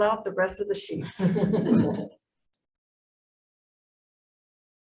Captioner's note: group laughs